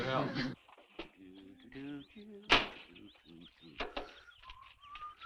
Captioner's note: humming